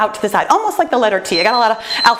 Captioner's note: timer beeps